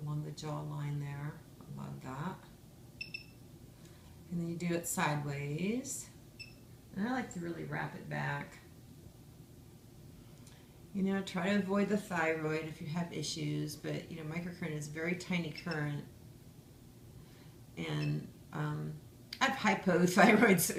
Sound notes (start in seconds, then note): 3.0 device beeps; 6.4 device beeps